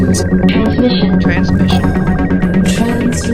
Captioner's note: voiceover